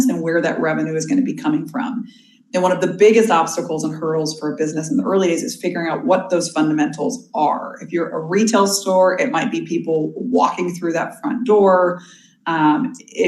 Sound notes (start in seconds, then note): none